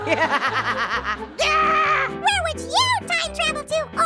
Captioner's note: Orange laughs; Little Apple laughs